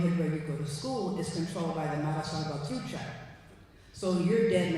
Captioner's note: non-english speech